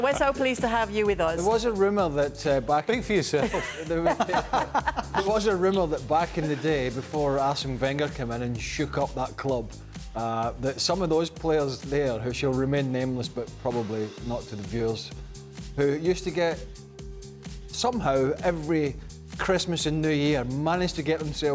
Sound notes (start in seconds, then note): 6.1 laughter